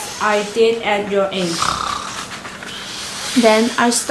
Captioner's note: 打呼